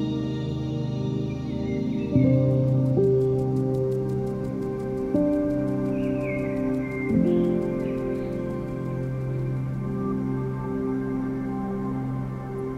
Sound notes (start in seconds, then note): 1.5 birds chirping; 2.5 somber piano music